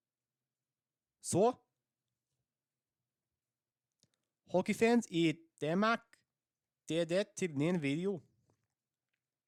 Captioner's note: danish